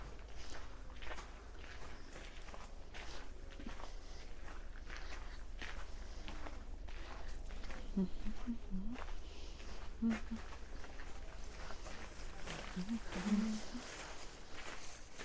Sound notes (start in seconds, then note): 7.6 hums